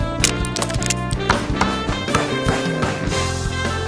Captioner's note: jazzy music; bashes